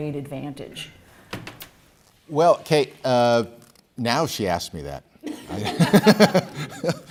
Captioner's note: laughs